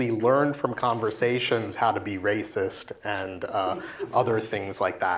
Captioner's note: laugh